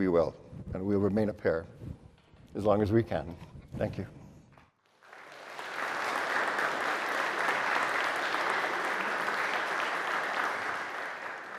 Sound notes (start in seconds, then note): 4.9 audience applauds